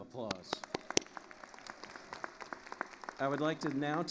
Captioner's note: attendees applauding